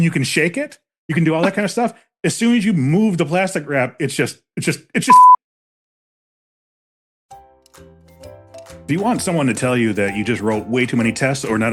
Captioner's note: beep